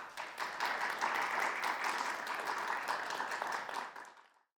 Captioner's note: audience applauding